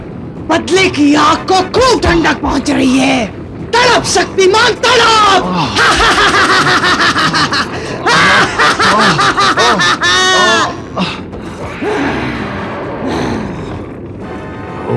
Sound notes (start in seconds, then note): 5.6 evil Laugh; 5.7 groans